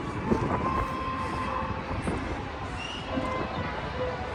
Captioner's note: wind rustling